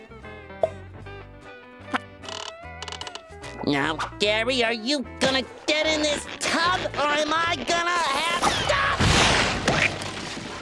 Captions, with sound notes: Now, Gary, are you gonna get in this tub or am I gonna have... [screams]